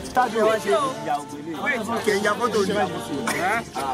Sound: all chattering

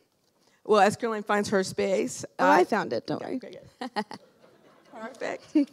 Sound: laugh

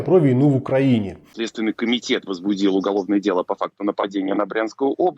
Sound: russian

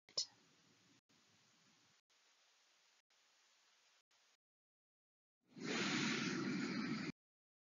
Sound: exhales

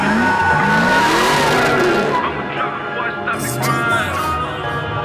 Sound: engine roaring

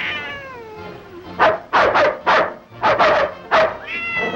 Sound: cat mewing; dogs barking

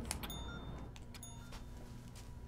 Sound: bell rings

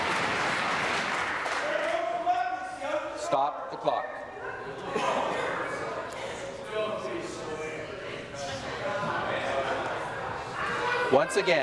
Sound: applause

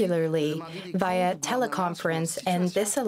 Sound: SpeakinFrench

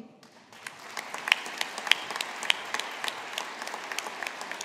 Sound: audience applauding

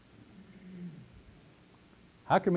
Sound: pause

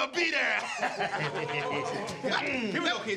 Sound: laughing

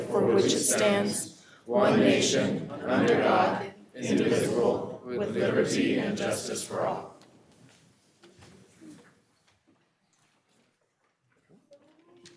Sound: reciting the pledge of allegiance

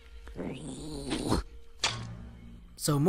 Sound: growl

